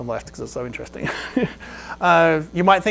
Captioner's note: laughs